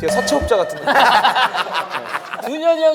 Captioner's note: laughing